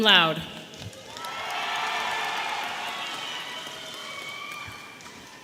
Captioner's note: audience cheering